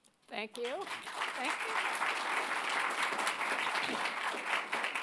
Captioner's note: audience clapping